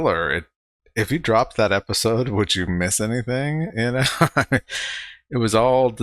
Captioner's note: chuckling